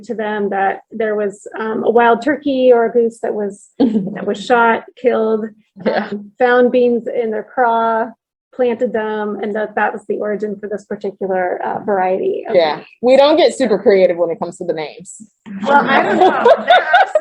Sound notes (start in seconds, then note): 15.6 laughter